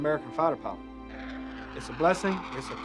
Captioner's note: jet engine roaring